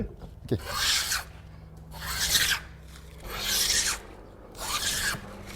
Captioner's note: planing sound